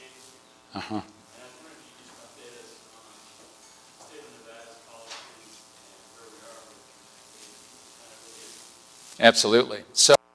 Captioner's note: distortion; distortion